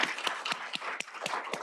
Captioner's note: applause